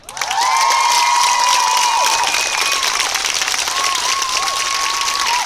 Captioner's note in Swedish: Jubel och applåder